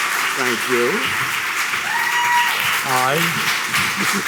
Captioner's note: applause; cheering